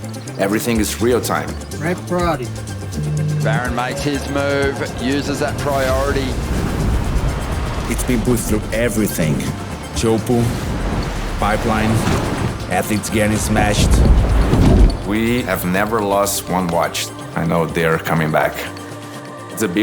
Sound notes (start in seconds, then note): 6.1 wave crashing; 13.8 water rushing